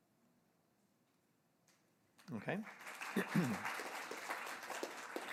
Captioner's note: applause